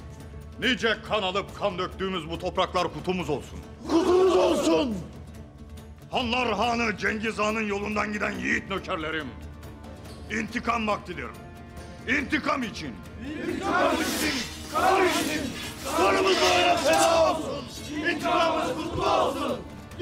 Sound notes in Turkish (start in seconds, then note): 3.7 Hep bir ağızdan; 13.3 Hep bir ağızdan